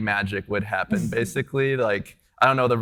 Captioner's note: chuckles